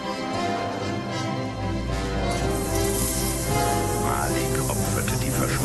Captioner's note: electricity buzz